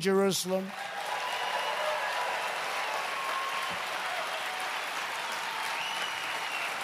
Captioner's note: applause